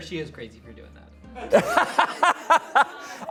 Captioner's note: audience laughing